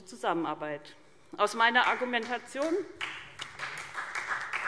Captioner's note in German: Vereinzelter Beifall SPD